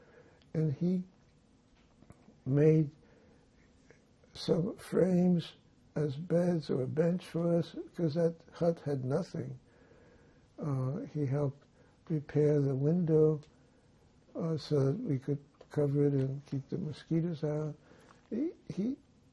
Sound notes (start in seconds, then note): none